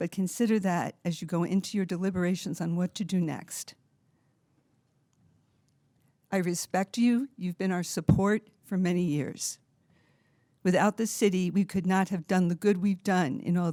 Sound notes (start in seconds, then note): none